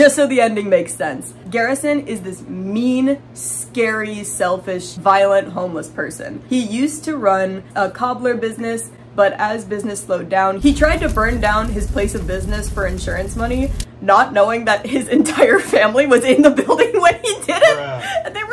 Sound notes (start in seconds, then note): 10.6 fire crackling; 13.6 cracking up